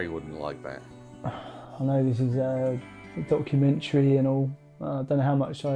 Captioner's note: sighs